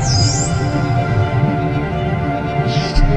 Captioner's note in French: Chant de dauphin